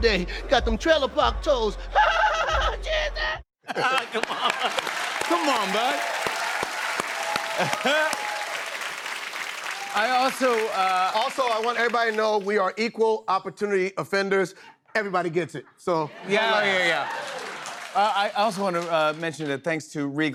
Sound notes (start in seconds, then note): 1.9 laughing; 6.0 cheers and applause